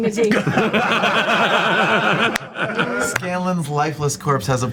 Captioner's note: all laugh